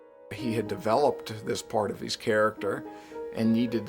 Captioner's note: voiceover